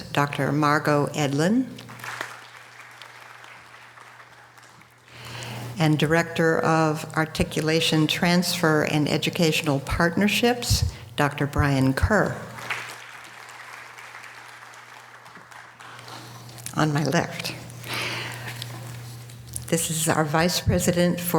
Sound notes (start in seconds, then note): 1.8 audience applause; 12.5 audience applause